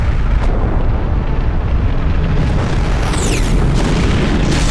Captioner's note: explosions